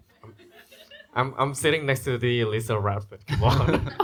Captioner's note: giggles